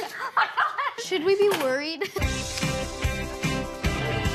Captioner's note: all laugh